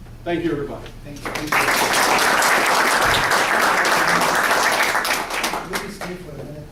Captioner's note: applause